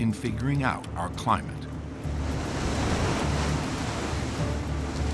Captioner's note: wave crashes